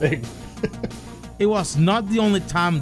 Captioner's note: chuckle